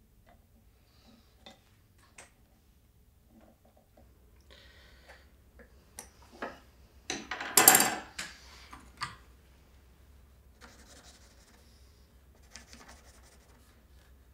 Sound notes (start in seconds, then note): 7.1 tools clatter; 10.6 pencil scratches